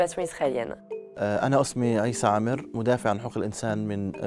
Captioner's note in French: il parle en arabe